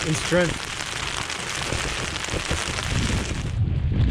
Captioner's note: heavy rain continues; heavy wind continues